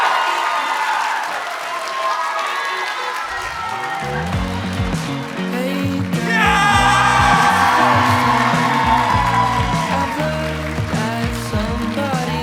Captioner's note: applause